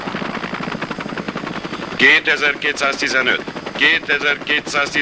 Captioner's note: man over radio